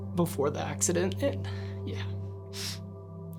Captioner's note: sniffling loudly